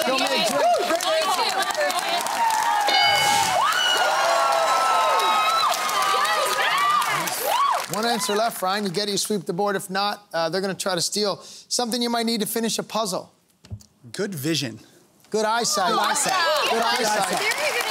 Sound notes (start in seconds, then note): 3.4 cheering and applause